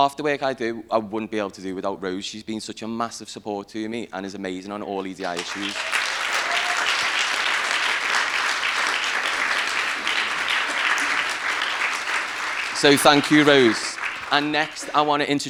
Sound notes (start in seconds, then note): 7.8 applause